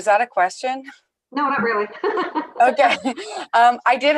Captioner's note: laughs